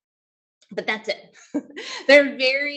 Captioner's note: chuckles